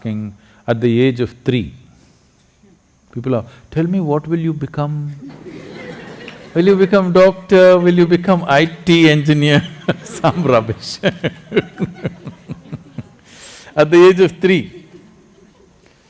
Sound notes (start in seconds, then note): 5.2 laughter; 9.2 laughs